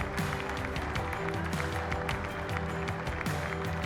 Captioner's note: applause